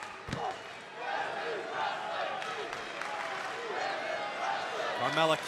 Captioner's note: crowd cheering